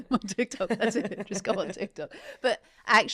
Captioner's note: both laughing